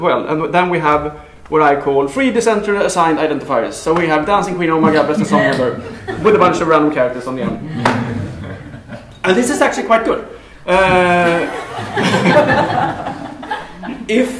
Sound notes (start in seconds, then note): 4.8 laughter; 11.2 laughter